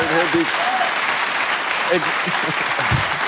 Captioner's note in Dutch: applaus